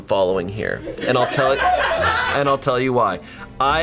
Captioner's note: colleagues laughing